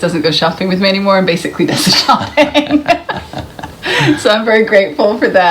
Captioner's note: laughs